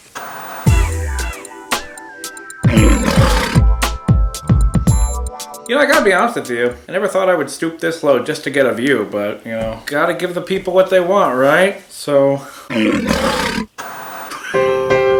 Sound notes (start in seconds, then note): 0.0 TV static; 0.6 seductive music; 2.6 lion roars; 12.7 lion roars